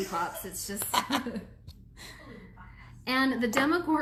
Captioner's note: laughs